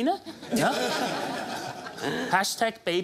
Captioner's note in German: lachen